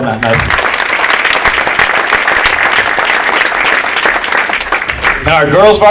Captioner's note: audience applauding